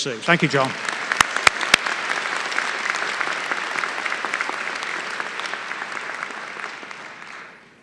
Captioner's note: applause